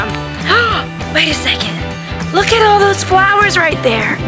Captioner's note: gasps